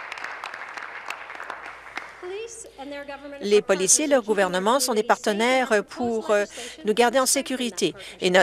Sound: applause

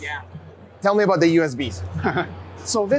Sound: laughs

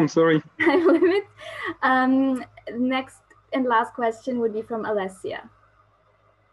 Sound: laugh

